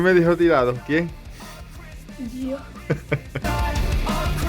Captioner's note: laughs